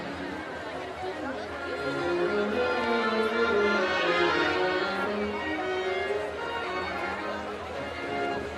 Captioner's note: none